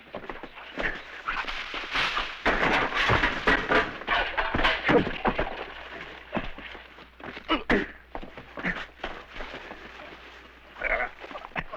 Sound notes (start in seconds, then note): 0.8 rustling; 1.2 clattering; 7.2 grunting and thudding